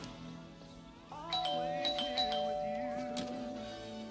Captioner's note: rings the doorbell